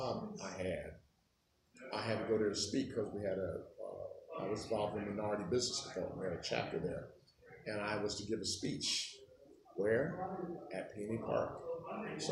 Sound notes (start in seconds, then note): none